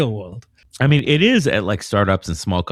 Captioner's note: uh